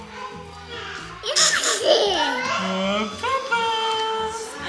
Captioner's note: giggles